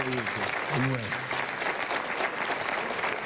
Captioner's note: applause